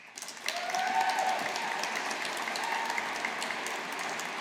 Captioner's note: audience applauding